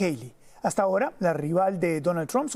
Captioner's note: HABLA EN INGLéS